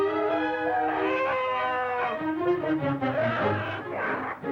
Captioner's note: growling